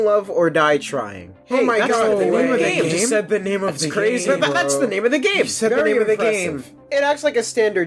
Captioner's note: audience clammering